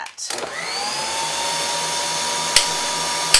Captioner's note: beater whirs